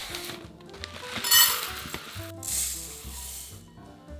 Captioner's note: rice dropping